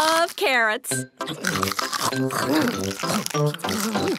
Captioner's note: crunch